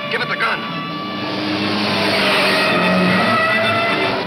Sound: dramatic music; tires squealing

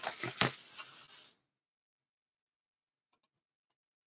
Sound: rustling

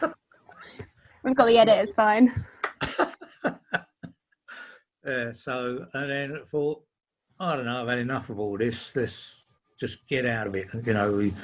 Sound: laughing

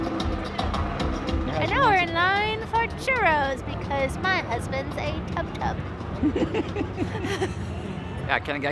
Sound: giggling

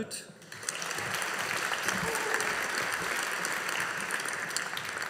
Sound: audience applauding

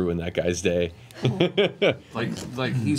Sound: laughs

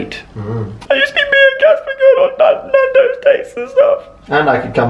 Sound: crying

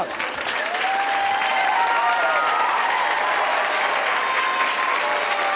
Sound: audience applauding

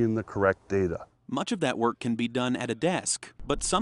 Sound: schlag

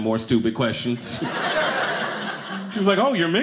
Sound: audience laughing

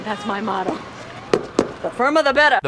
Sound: stomps ground

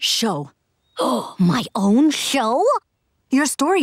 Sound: gasping

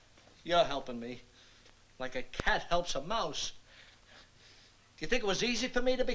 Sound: none

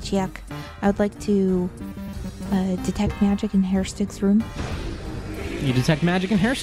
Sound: magical sound effect

